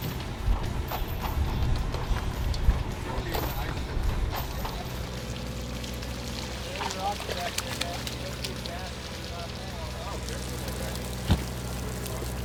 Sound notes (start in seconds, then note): 4.1 water splashing; 8.6 crew chatting